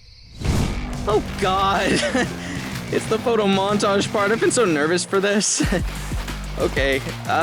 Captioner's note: chuckling